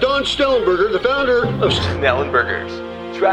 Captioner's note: radio